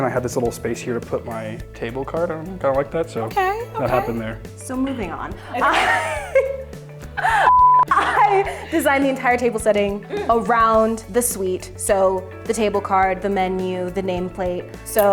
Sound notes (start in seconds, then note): 5.4 laugh; 7.4 beep tone